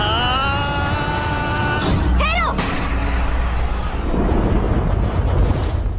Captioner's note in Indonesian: berteriak